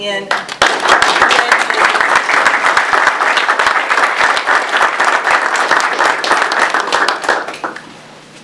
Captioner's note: audience applause